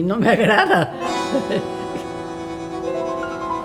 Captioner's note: laughter